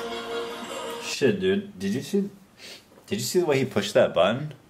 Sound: sniffs

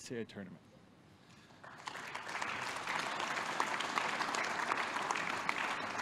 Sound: applause

